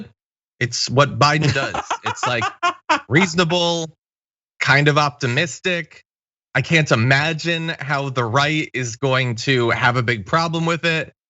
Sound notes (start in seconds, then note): 1.3 laugh